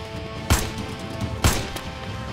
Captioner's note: Gunshot